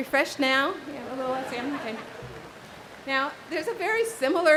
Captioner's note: audience laughs